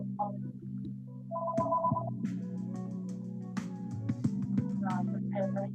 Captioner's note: phone rings